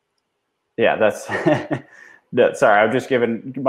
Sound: laughs

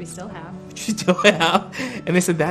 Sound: laughing

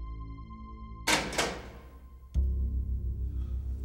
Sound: clicking

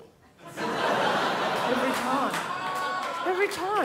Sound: crowd laughs

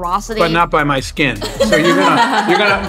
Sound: all laughing

